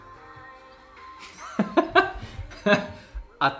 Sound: laughs

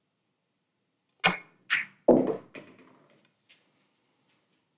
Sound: balls clanging

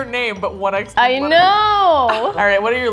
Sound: laughing

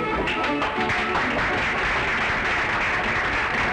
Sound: applause

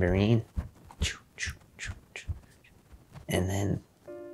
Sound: imitates tambourine music

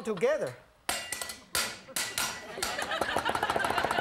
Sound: rhythmic clanging; laughing

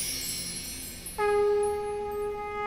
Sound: conch blowing

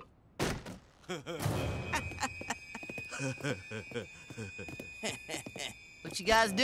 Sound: laughing

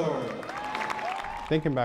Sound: cheering

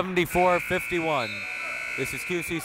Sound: buzzer

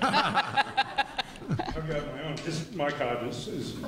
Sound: laughter

